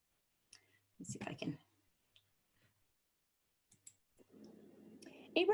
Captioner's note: silence